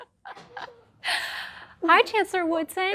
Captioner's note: laughing